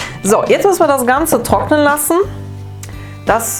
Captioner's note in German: none